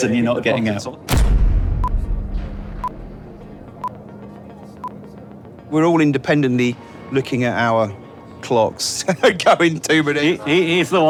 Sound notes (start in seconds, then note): 1.1 dramatic music; 2.7 clock beeping; 9.5 chuckling